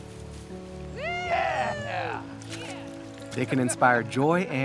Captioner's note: Baratunde hollers; mentor cheering